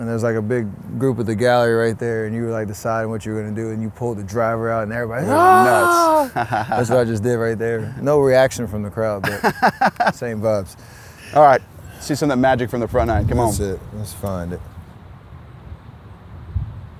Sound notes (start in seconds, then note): 5.2 screams; 5.2 laughs; 9.2 laughs